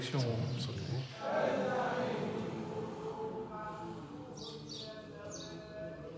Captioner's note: chanting in a foreign language